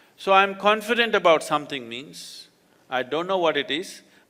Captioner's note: none